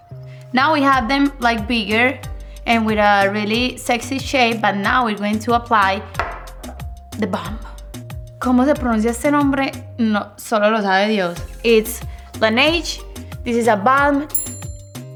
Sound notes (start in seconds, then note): 8.1 speaking in Spanish